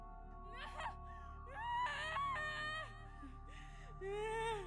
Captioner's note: wailing